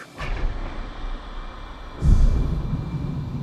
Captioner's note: whooshing